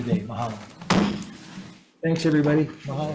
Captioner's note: gavel thuds